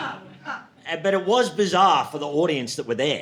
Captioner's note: audience laughing